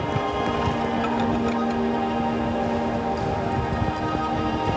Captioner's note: clinking of metal climbing gear; metal ice axe scraping on rock; atmospheric notes resonate